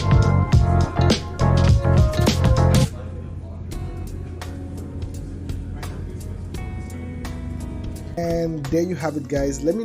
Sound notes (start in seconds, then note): 3.0 people murmuring; 3.0 slow relaxing music